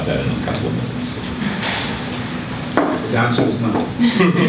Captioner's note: laughter